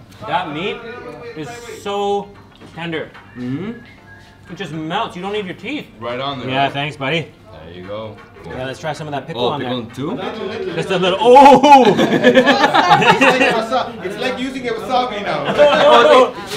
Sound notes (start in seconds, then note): 11.3 people laughing; 15.4 everyone laughing